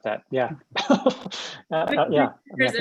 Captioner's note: laughs